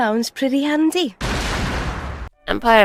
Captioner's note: explosion